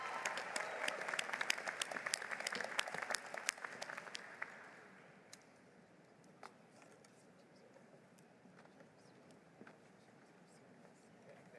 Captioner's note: applause